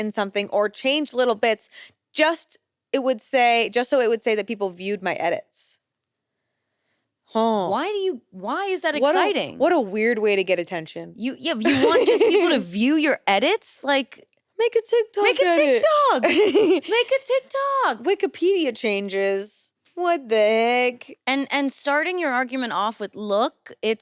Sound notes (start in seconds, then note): 11.6 chuckles; 16.2 chuckles